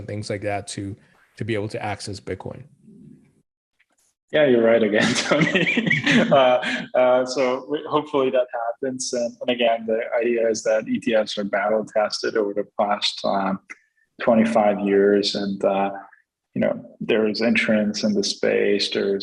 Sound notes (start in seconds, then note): 4.9 laughter